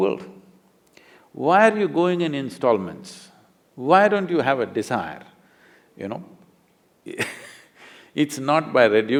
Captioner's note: laughs